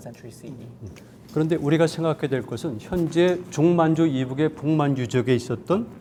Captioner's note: speaking in Korean